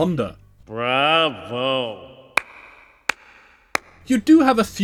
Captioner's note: slow clap